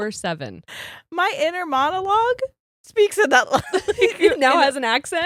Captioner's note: giggles